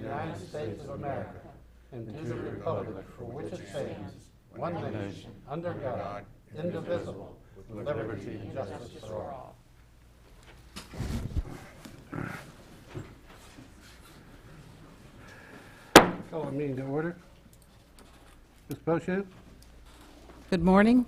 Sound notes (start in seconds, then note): 15.9 mayor bangs the gavel